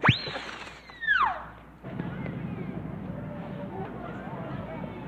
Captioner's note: cartoonish whistle blows